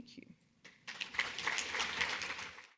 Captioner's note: audience applauding